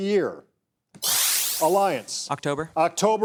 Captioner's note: electric shuttering